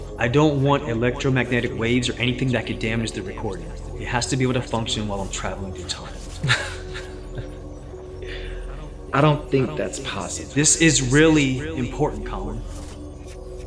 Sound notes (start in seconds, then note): 6.4 Collin chuckling